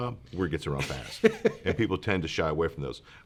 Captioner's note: laughs